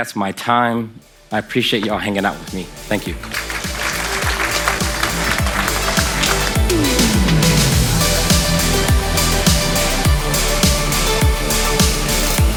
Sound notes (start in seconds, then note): 2.9 applause from the audience